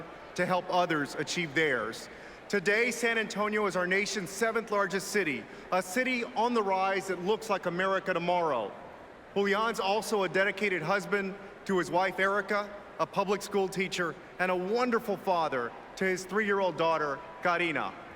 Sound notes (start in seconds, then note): none